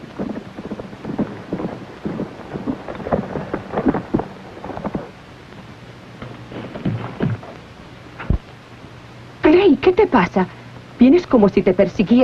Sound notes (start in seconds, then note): 2.7 hoofbeats stop